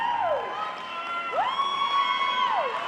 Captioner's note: cheering